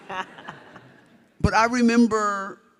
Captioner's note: audience laughs